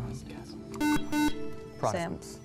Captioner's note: buzzer